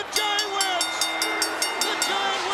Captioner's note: bell rings